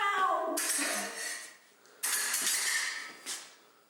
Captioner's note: laughs; swords clanging